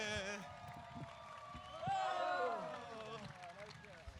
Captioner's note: audience claps